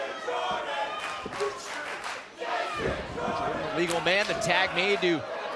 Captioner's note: crowd chatter